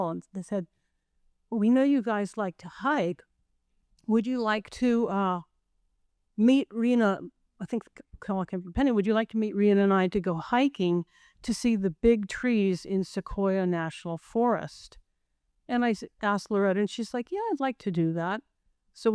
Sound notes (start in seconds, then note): none